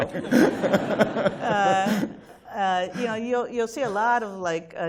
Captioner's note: laughter